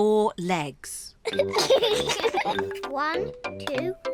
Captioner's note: both giggle